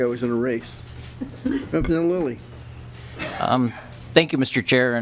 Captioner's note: laughter